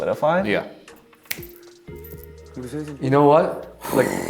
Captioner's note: snapping fingers